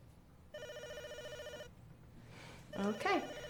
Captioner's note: phone rings